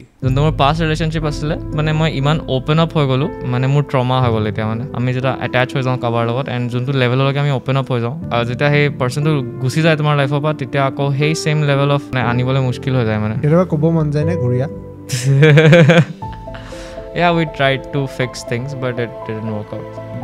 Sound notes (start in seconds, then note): 15.2 laughs